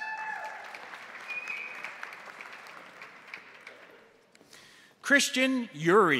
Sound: crowd cheering; crowd applauding

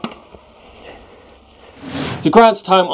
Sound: swooshing

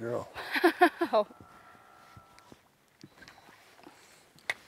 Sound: laughs

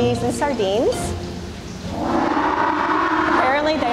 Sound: penguin braying

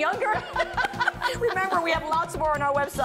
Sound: laughter

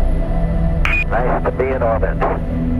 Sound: radio voice 4

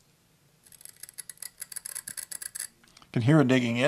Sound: metal scraping

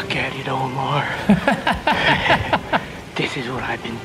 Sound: laughs

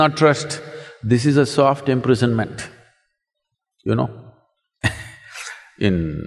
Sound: chuckles

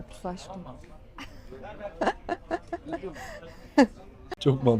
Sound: laughter

